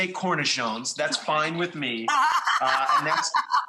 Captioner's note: laughs